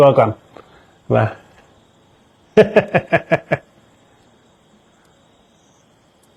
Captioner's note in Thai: เสียงหัวเราะ